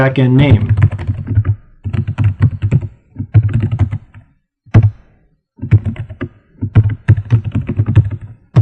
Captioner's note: typing